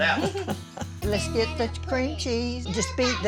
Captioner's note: everyone laughing